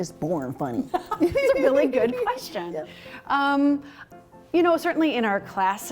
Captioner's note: laughter